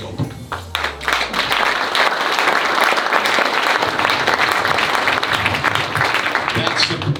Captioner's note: audience applause